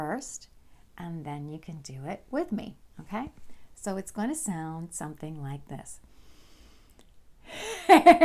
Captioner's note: laughter